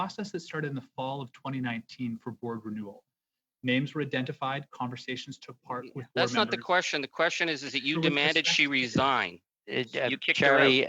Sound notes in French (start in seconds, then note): 4.1 voix de l'interprète